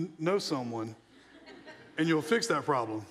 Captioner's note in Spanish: la audiencia se rie